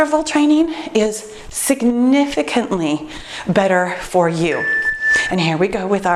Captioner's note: timer beeps